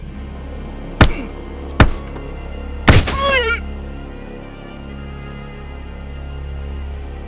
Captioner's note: Ocean wincing; fist bashing